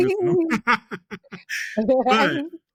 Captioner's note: laughs